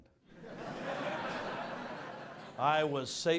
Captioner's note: audience laughs